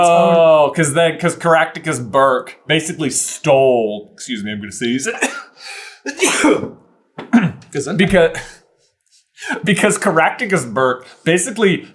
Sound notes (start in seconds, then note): 6.0 sneeze; 6.0 cough; 8.0 laughs